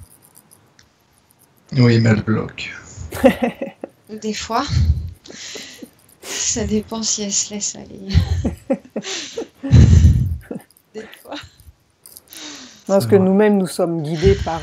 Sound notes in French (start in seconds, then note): 3.1 rires